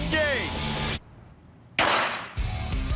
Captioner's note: gunshot